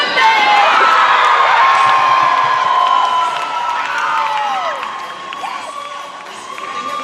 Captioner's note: cheering